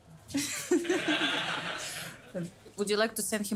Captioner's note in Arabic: تضحك; المراسلون يضحكون